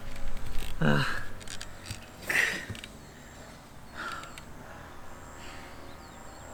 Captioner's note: laughs